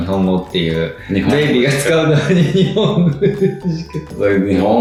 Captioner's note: laughs